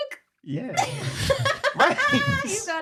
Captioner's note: laughing